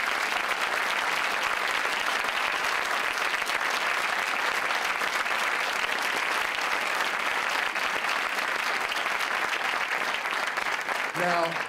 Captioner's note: applause